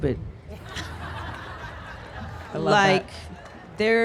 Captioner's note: crowd laughing